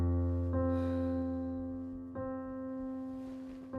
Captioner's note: sighing